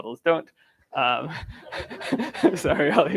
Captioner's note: laughter